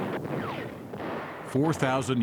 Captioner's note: explosions booming